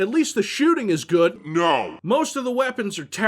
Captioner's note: deep voiced "NO"